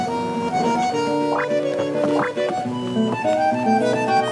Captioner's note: tapping